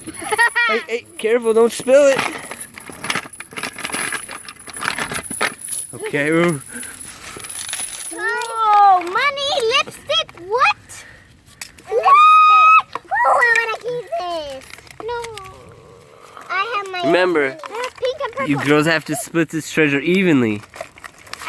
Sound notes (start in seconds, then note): 0.2 proud laughter; 2.6 chains clanging against wood and stone